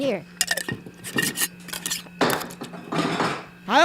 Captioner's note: banging and clanging sounds